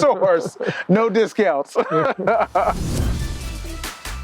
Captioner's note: laughing; upbeat music